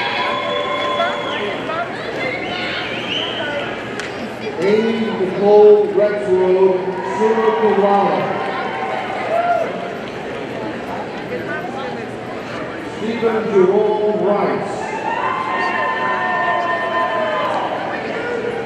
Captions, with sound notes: (audience cheering) Amie Nicole Rexroad, summa cum laude, (audience cheers and applauds) Stephen Jerome Rice, (audience cheering)